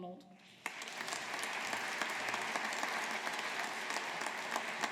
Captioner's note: audience applauding